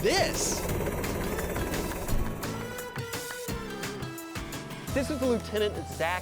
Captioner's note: helicopter blades whirling